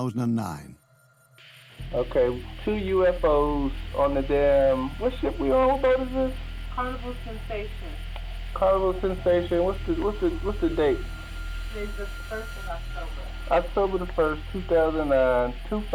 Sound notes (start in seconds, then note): 1.7 man on recording; 6.7 woman on recording